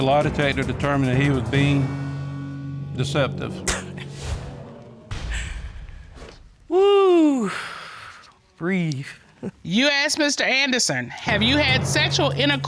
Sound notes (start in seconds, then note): 3.7 chuckles; 7.2 exhales